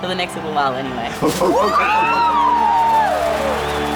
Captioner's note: all cheer